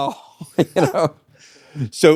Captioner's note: laughing